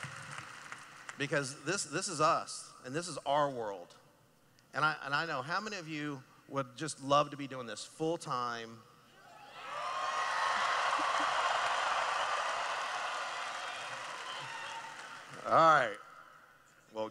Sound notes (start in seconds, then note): 9.2 cheering